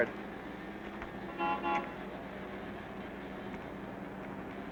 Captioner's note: horn honking